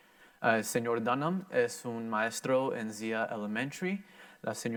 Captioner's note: in foreign language